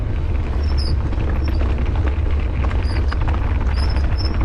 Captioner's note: bike squeaking